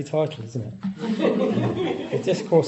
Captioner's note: audience laughing